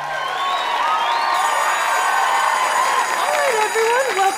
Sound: audience cheering and applause; bell ringing

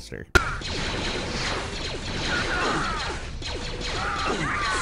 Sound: blaster firing

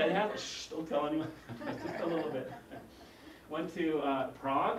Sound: laugh

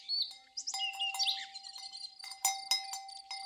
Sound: bell clanging

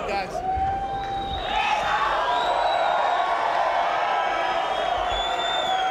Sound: cheering

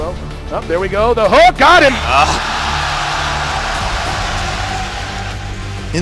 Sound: crowd Cheering

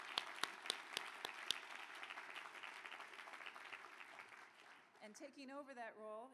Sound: applause

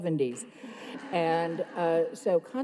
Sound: everyone laughs

